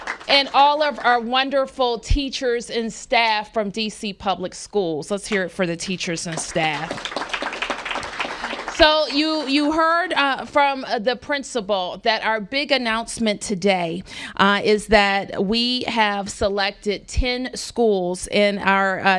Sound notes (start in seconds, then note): 6.1 applause